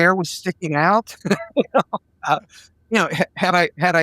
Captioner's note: laughing